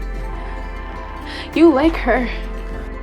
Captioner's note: voiceover